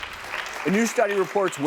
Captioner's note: audience applause